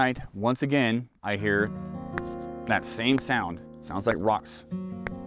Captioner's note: thumping fists